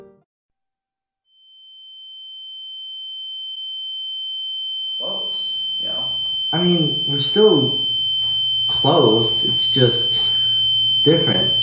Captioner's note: ringing